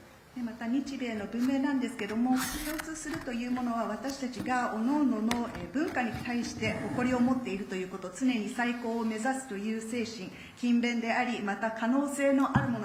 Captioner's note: speaking Japanese